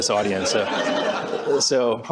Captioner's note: laughter